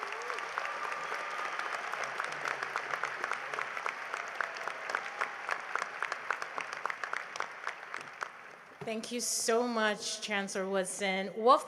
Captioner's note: applause